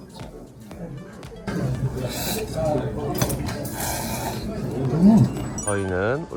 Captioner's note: noodle-slurping ASMR